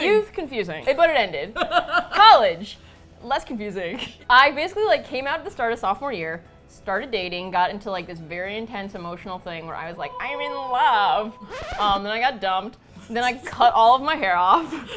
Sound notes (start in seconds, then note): 1.5 laughs; 10.1 record scratch; 14.6 both laugh